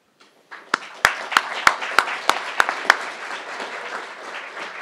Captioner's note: crowd applauding